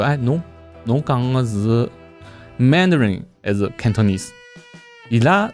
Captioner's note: Cantonese